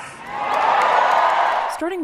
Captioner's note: cheering